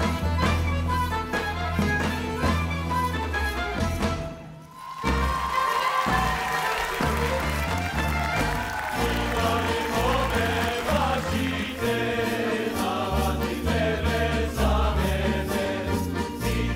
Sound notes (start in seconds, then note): 4.6 audience applauding; 5.0 upbeat folk music; 9.1 men singing in foreign language